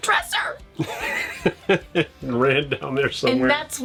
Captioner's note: laughing